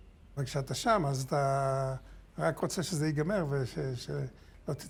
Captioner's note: speaking foreign language